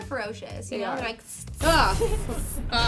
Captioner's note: hisses